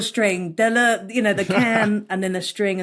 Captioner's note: laughs